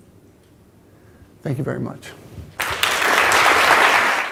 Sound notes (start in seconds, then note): 2.6 applause